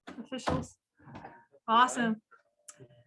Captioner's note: door shuts